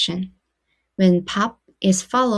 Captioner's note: speaking Korean